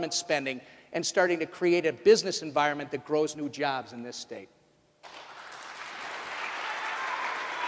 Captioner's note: applause